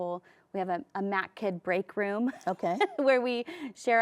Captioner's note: laughs